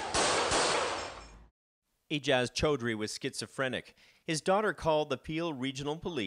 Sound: gunshots

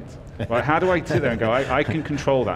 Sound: laughs

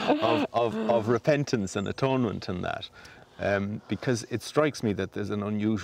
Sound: laughs

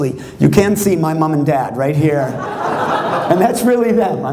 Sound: laughter

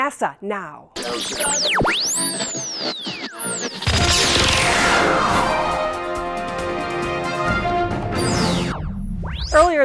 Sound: sound Effects

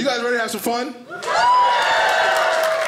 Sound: audience cheers; audience applauding

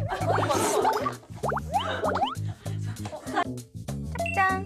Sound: giggle

